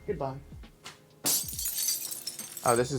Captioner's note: glass breaking